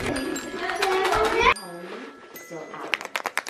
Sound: rattling

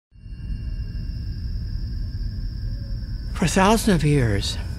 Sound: wind rushes by, crickets chirp

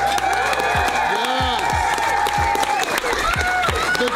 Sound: crowd clapping and cheering

